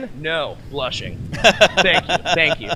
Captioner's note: laughs